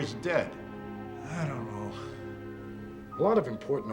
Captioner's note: Harry Sighs